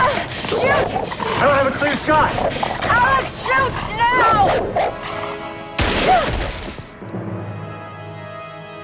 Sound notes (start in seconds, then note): 5.4 dog whimpers